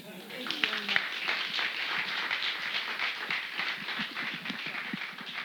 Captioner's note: audience applauding